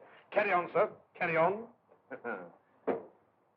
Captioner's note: chuckles